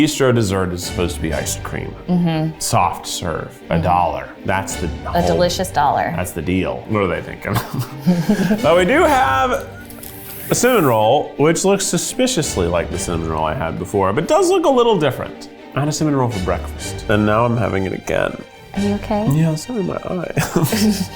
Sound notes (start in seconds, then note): 7.4 laughs